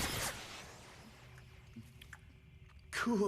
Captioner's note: chewing bubble gum